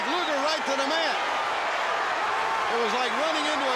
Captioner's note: crowd cheering